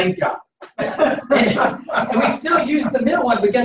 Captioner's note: laughter